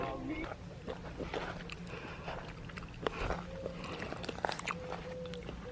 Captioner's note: walking on gravel